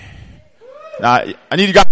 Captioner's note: cheer